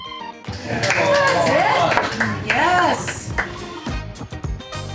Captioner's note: crowd cheering